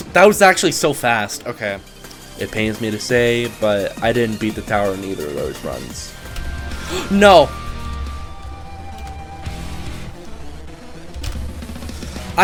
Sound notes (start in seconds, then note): 6.8 gasp